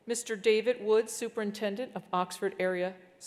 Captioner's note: none